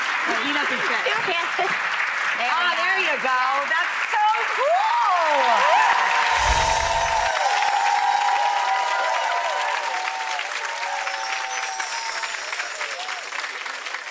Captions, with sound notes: Oh he doesn't fit. There you go, that's so cool. (cheering)